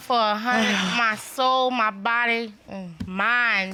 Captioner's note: sighs